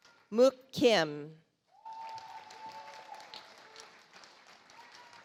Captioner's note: audience applauds